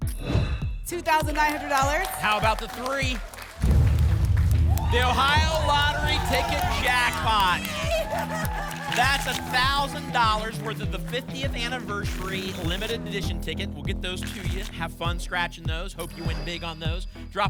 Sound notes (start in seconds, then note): 0.1 whoosh; 3.6 boom; 3.6 phaser sound; 7.6 applause and cheering